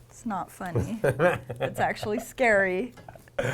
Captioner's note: laughing